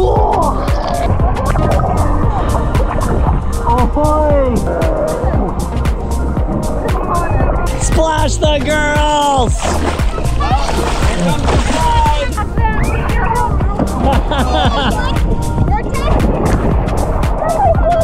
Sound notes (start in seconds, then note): 5.4 upbeat music; 9.8 water splashing; 12.8 upbeat music